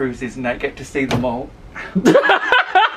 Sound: ceiling thumps; laughs

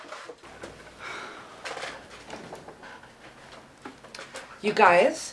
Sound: exasperated sighing

